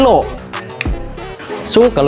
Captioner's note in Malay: Click